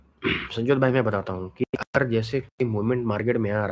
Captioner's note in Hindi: नाक से की जाने वाली आवाज़; गला साफ़ करने की आवाज़